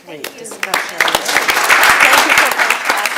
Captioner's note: audience clapping